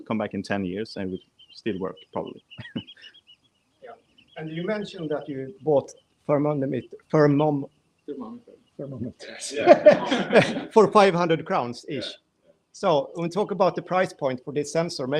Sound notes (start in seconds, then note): 9.0 laughing